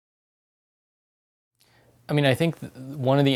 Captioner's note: pause